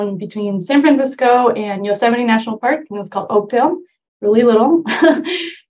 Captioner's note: chuckle